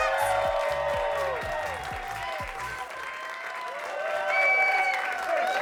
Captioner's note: audience cheering and clapping